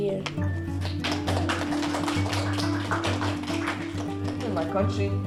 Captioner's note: applause